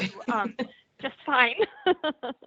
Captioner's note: chuckling